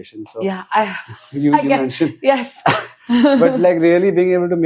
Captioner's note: laughs